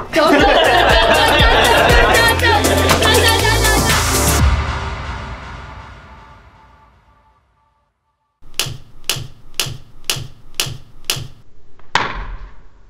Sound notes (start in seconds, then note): 0.1 laughing